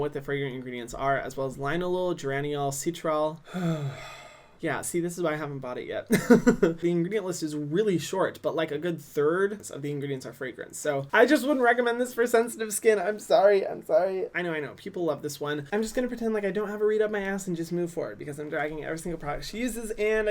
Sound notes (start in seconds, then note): 3.4 sighs; 6.1 laughs